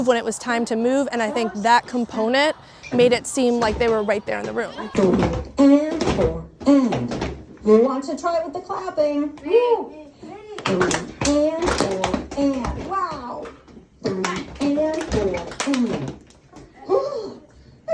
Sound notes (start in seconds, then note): 10.7 clapping